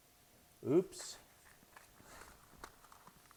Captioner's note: strikes match